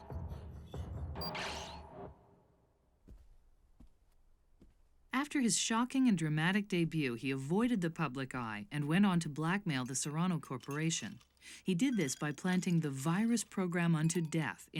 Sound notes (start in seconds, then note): 1.1 beeps